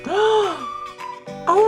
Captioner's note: gasps